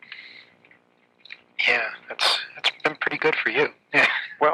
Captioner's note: chuckles